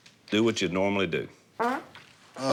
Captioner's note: farting